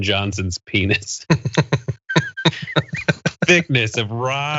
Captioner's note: laugh